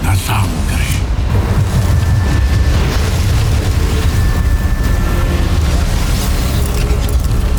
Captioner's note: evil energy whoosh & crackle; music intensifies